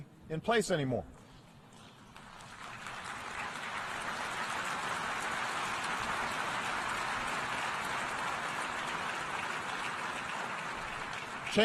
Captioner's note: applause